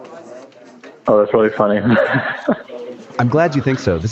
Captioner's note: laughs